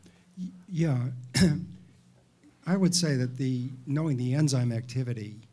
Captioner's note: coughs